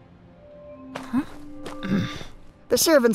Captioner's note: grunt